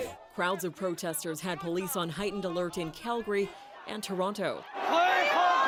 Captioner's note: chants